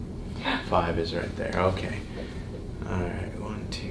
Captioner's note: patient gasps